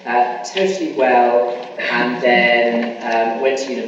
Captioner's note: coughing masks speaker